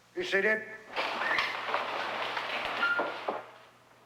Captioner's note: shuffling